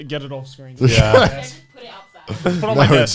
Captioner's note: laughs